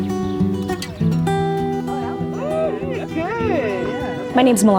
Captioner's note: chatting